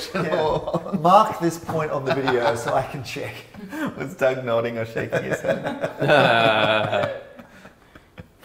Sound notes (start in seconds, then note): 5.1 laughter